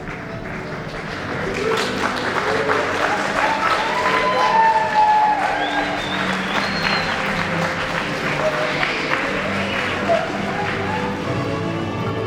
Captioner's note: applause & cheering